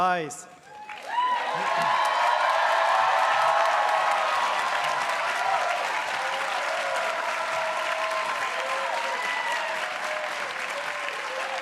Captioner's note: cheers